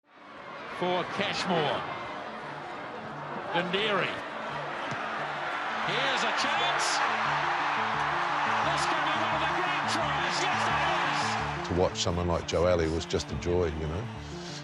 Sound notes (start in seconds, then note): 0.0 crowd cheering; 6.6 crowd roars